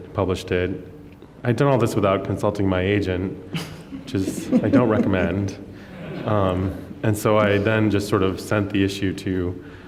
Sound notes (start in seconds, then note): 3.5 laughter